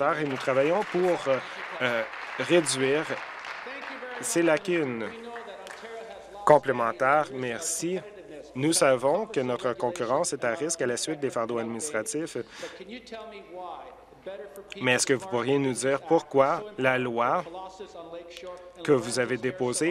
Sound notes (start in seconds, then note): 4.7 applause